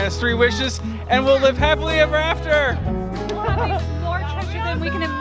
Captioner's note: laughs